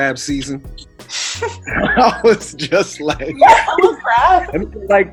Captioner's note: laughs